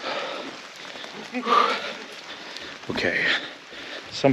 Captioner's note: panting